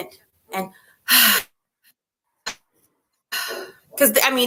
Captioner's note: exhales